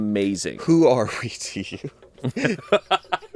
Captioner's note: laughs